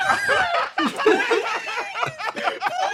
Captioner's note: cackling